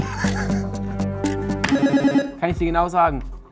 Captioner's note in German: Buzzer